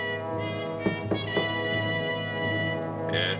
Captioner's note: knocking on door